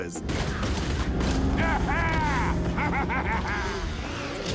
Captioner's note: laughing